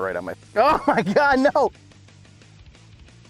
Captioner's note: laughs